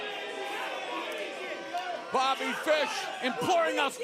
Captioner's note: crowd cheering